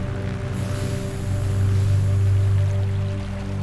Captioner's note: chemicals hiss